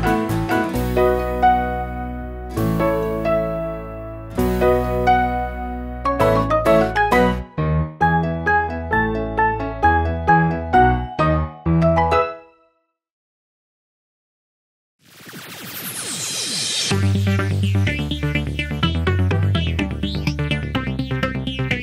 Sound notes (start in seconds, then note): 15.6 lasers fire; 16.8 techno music